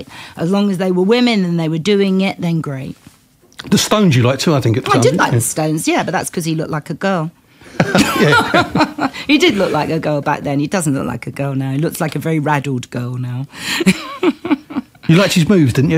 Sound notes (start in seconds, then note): 7.7 laughter